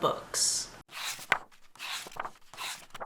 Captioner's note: pages turning